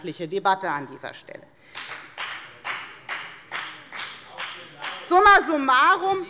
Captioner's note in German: Beifall bei der FDP